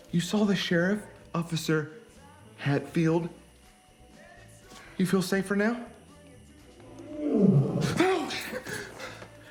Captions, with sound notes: You saw the sheriff, Officer Hatfield! You feel safer now? (Loki growls) Oh!